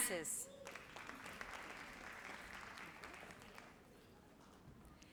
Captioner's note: audience applauds